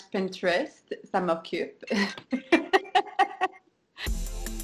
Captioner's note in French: rires